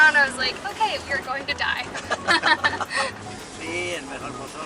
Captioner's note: laughter